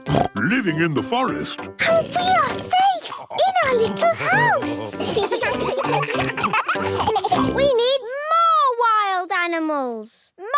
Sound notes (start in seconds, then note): 1.8 snorts; 3.7 children giggling